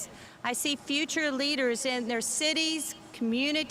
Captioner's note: none